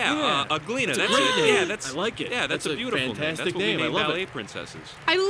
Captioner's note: Uglina gasps